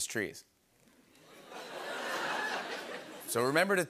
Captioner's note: laughter